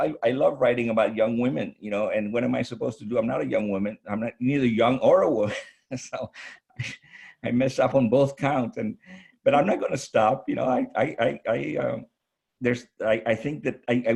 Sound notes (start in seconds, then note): 5.9 chuckles